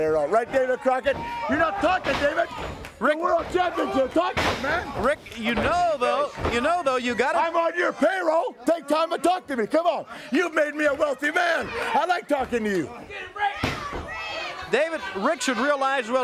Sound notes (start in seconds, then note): 5.1 crowd cheering